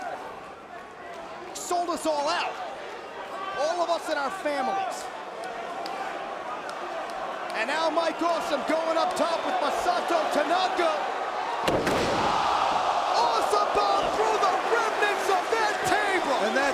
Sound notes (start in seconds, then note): 11.9 crowd cheering